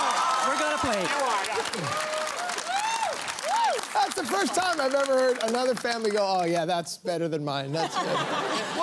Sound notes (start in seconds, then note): 0.0 applause; 7.7 laughter